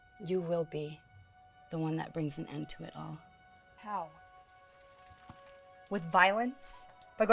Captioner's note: none